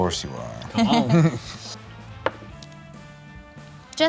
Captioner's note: laughs